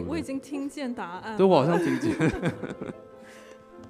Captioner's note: laughing